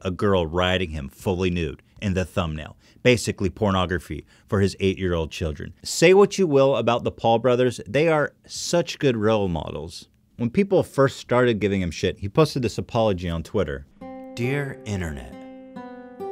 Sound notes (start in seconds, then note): 5.9 sarcastically; 13.9 reading in a dramatic voice